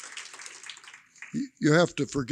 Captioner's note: applause